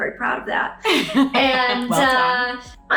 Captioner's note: laughing